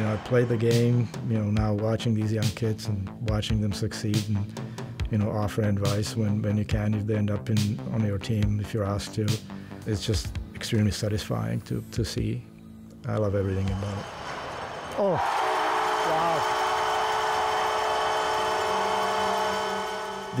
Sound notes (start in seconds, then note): 15.3 horn blaring